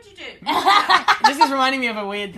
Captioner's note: laughter